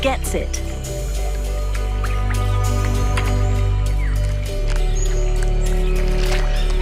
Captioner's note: dramatic music; water rustling